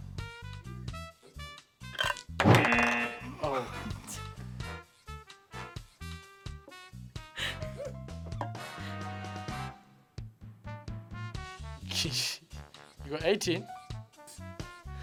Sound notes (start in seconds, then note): 1.9 buzzer; 2.4 dice clatter; 7.4 laughs